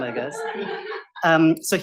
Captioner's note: laughter